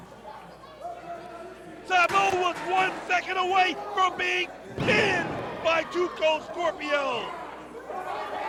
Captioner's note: crowd chatter